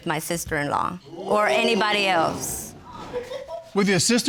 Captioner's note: audience exclaims